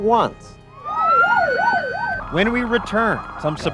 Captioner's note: police sirens